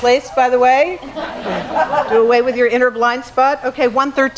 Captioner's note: laugh